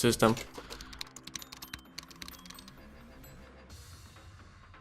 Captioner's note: keyboard clicks